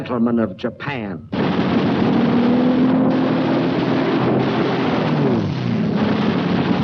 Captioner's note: engine roaring; guns firing